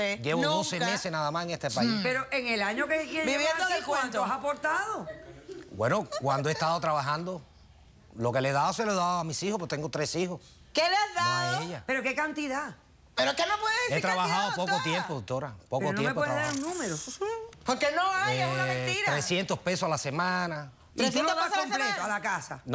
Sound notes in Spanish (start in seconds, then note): 6.0 Risas del público